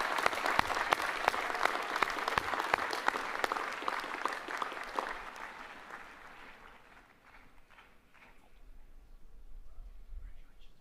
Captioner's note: applause